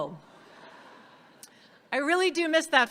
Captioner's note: audience laughs